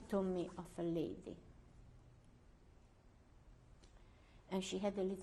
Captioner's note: pauses for 3 seconds